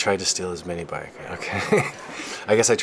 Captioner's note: laughing